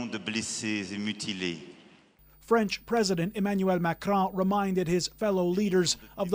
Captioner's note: speaking French